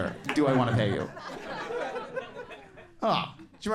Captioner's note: crowd laughs